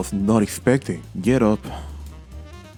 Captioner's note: sighs